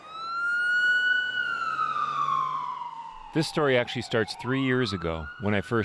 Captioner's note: sirens